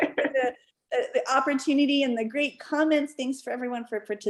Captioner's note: laughter